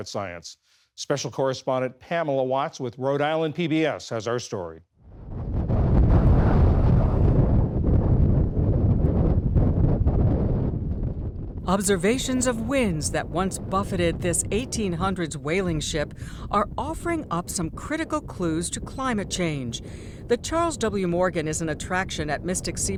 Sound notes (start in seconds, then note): 9.4 voice-over